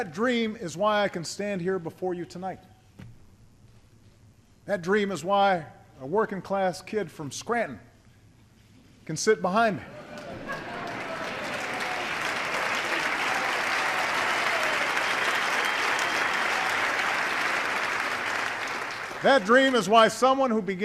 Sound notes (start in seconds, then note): 9.8 laughter and applause